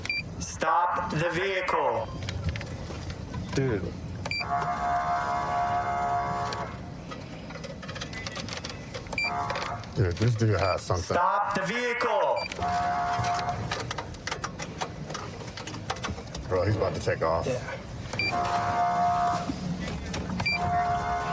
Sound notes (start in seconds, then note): 4.4 horn blaring; 12.5 horn blaring; 18.3 horn blaring